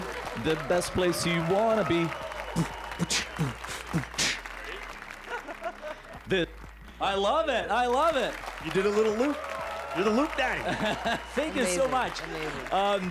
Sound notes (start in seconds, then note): 3.0 beatboxing